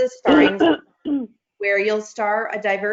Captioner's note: clears throat